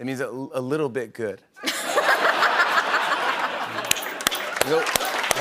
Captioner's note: laughter and applause